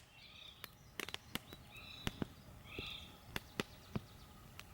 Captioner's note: crackling fire